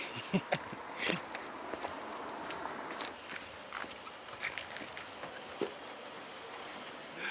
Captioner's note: giggles; footsteps